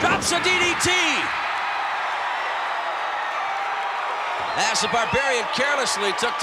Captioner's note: applause